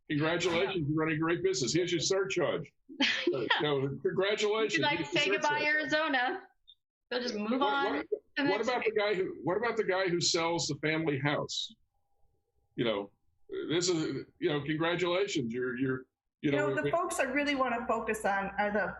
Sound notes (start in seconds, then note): 3.0 laughs